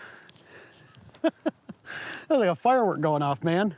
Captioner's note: laughs